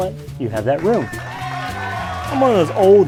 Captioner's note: canned audience cheering and clapping